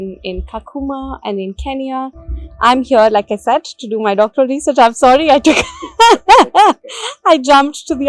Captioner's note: laughter